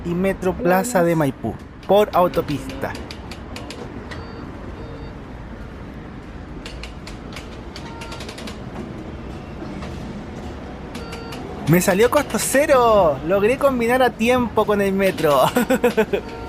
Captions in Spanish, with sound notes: y ‘Metro Plaza de Maipú’, por autopista (sonido ambiente torniquete y validador) ¡Me salió costo cero! Logré combinar a tiempo con el ‘Metro’, jajajaja